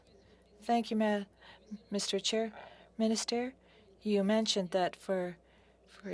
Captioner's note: speaking French